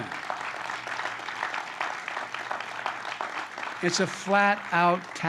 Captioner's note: applause